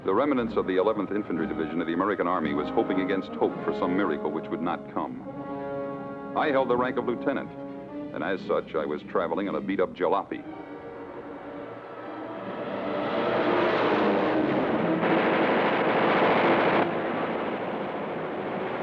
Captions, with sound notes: The remnants of the 11th infantry division of the American army was hoping against hope for some miracle, which would not come. I held the rank of lieutenant, and as such, I was traveling in a beat-up jalopy. (planes roaring) (gunfire blasting)